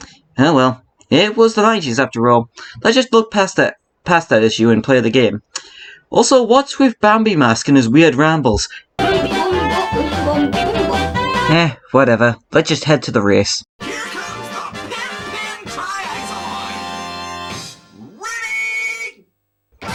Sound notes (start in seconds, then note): 8.9 demonic ramblings of Bambi Mask; 13.8 Pen Pen game noises here